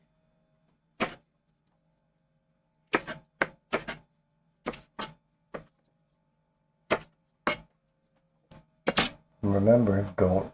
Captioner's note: knife cutting